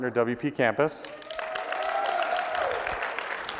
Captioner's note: applause